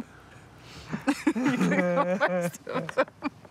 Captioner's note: laughs